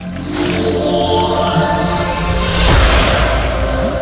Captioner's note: logo whooshing